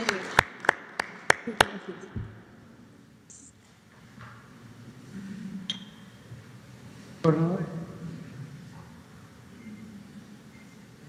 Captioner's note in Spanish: aplausos